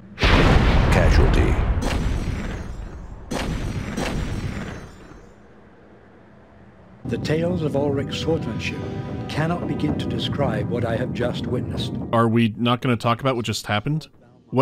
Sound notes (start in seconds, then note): 2.0 more explosions